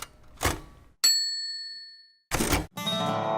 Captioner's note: bell dings; guitar strumming